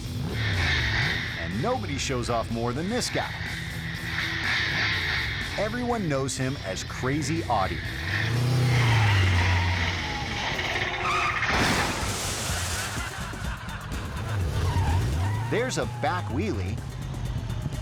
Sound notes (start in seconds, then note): 0.0 bike revving; 3.5 bike revving; 3.5 rock music; 8.5 bike revving; 11.3 dramatic music; 11.3 vehicle skidding; 12.5 audience laughing; 12.5 bike revving